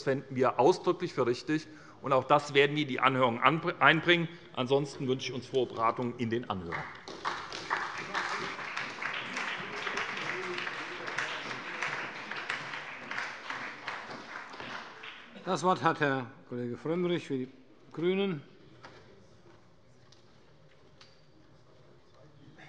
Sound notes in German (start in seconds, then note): 8.2 Beifall bei der SPD